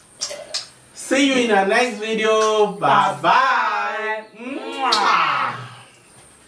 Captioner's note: kisses